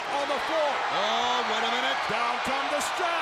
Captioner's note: crowd cheers